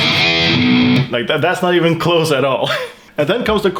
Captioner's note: laugh